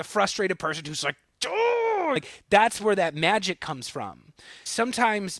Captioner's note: frustrated sound